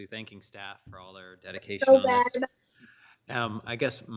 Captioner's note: overlapping chattering